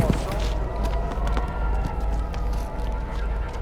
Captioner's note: sirens wailing